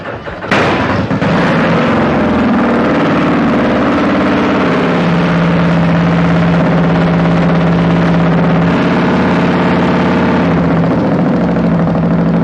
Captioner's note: engine roaring